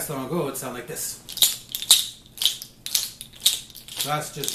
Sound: deer toes clacking

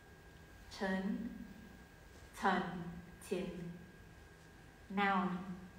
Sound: speaking in foreign language

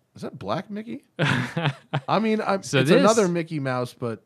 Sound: laughter

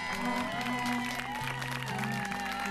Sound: cheers and applause

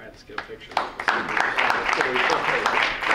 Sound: applause

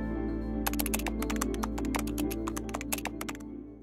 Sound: keyboard typing

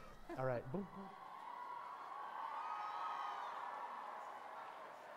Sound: cheering

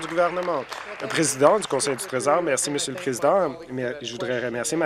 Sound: applause

